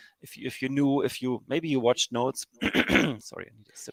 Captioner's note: clears throat